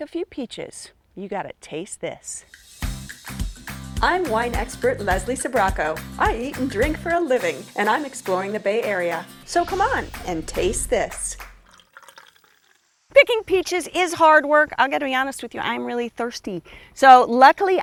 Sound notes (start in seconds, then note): 4.6 upbeat music; 13.1 drink pouring and fizzing